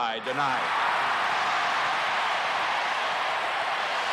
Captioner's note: cheering erupts